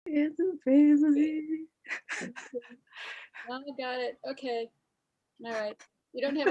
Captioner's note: laughs